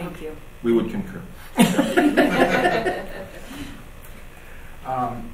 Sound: group laughing

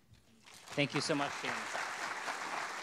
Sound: audience clapping

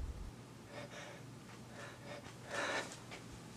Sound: man pants

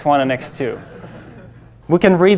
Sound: class laughs

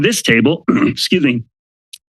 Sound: clears throat

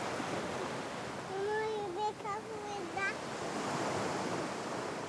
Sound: girl babbling happily

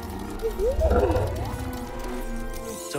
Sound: boo-woo-woop

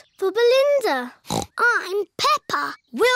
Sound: snorts

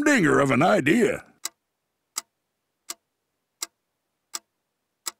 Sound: clock ticking

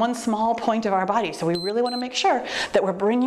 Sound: timer beeps

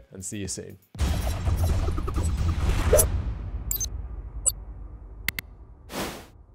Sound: dramatic music; ninja star whooshing; slide whooshing

